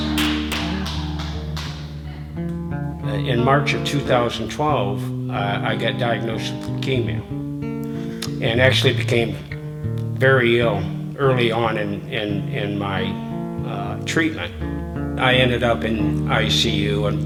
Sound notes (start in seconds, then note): 0.0 clapping